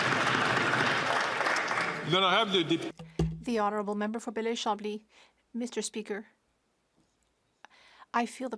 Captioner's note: some Applause